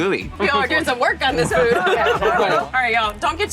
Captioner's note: group laughing